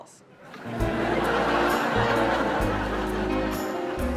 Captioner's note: audience laughs